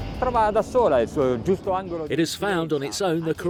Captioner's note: speaking foreign language